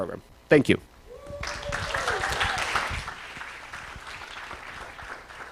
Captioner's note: cheering, applause